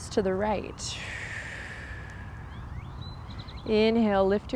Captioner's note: blows out breath